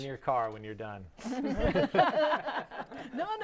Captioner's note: laughing